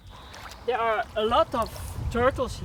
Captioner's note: none